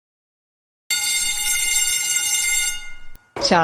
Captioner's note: bell Rings